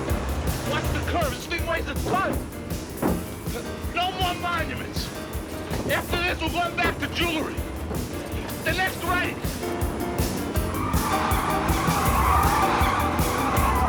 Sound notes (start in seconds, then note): 10.4 tiers screeching